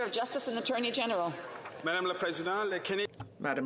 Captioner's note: some Applause